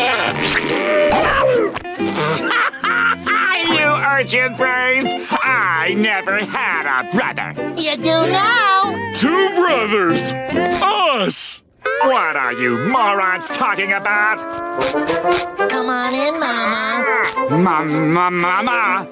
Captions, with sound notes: [laughing] You urchin brains! I never had a brother! - You do now! - Two brothers! Us! What are you morons talking about? Come on in, Mama. Ma- Ma- Mama?